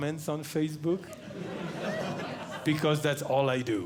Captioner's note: audience Laughing